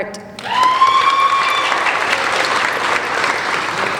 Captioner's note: applauding